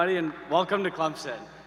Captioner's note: applause